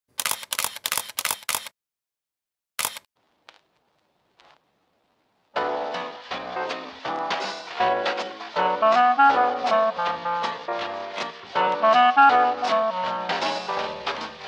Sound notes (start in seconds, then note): 0.1 camera flashes; 5.4 jaunty music